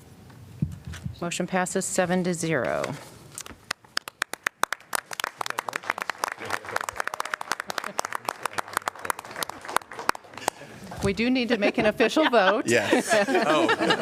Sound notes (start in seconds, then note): 3.7 applause; 11.7 laughter